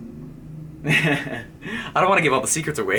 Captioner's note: laughing